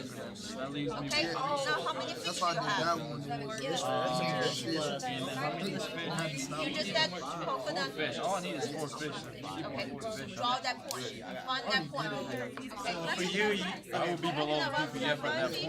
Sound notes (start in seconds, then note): 4.5 students murmur